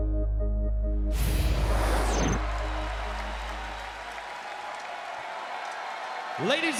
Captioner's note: crowd cheering